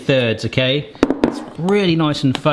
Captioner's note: dish bangs